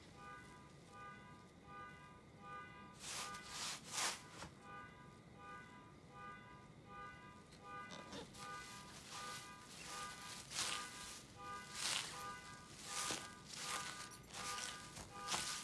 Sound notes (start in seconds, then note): 0.1 distant car alarm honking; 4.5 leaves rustling; 12.3 leaves crunching